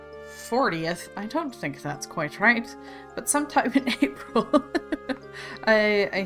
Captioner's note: laughs